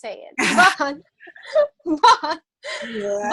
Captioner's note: both laugh